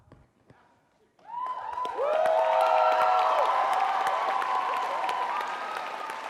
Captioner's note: crowd cheering and applauding